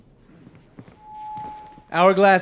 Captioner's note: microphone interference